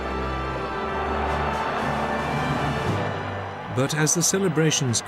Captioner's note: Applaus